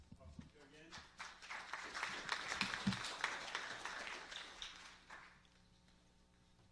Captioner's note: applause